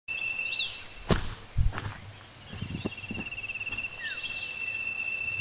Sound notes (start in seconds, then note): 1.0 footsteps